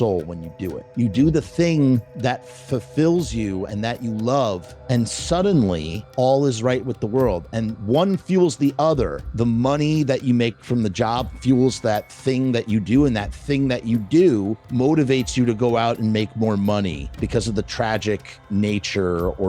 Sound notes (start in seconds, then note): none